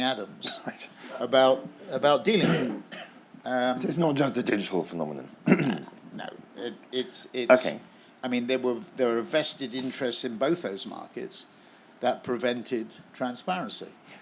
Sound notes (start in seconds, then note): 5.4 cough